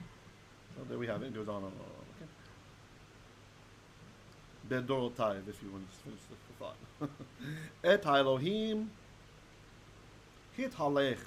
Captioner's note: Hebrew